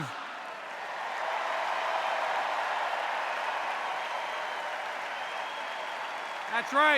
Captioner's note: cheers and applause